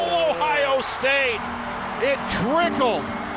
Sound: fans cheers

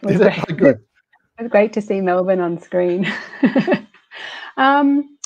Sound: laughs

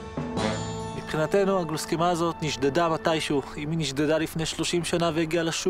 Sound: speaking foreign language

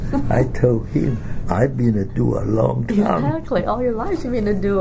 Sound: laughs

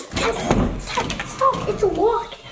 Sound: sound of pulling on door

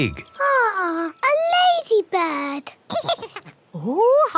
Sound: giggles

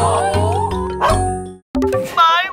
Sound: bark

